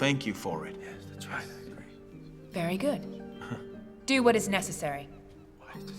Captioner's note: man whispering